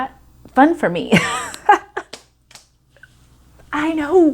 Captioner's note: laughing